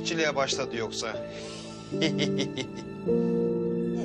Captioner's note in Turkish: Gülüyor